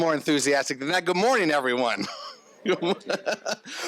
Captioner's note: laughs